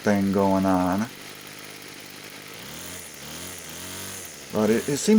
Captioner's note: engine running sounds